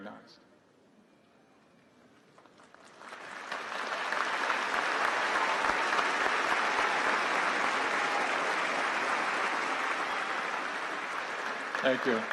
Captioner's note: applause